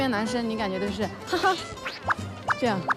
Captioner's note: haha